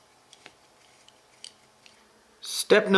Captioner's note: screwing into metal